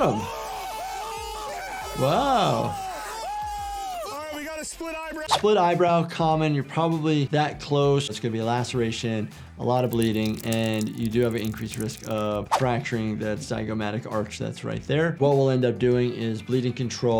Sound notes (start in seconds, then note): 0.0 group cheers